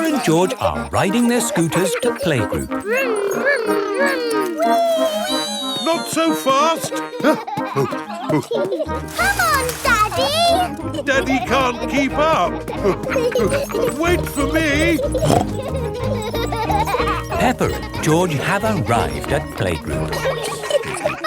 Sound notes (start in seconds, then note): 6.8 panting; 7.8 peppa and george laughing; 15.5 snorts